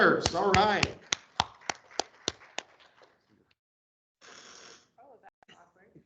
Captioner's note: people clapping